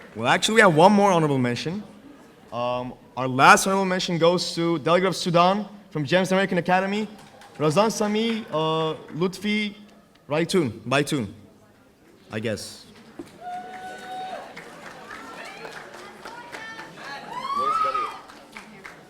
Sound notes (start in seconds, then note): 13.3 audience cheering